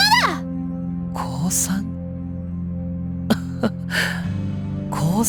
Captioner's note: chuckle